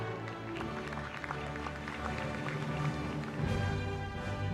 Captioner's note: applause